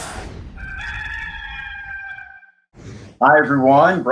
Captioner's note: rooster crowing